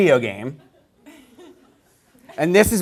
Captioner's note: laughter